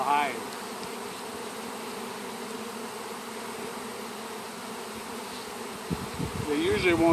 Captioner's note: bees buzzing